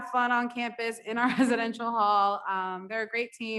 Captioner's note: laughs